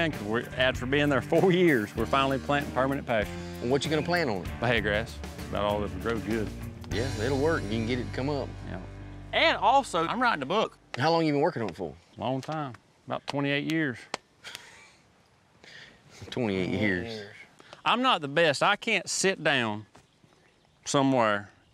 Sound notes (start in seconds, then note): 14.4 chuckles